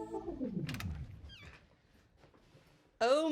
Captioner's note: door creaks open